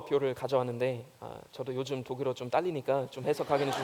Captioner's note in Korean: 웃음